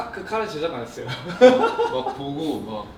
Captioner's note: laughing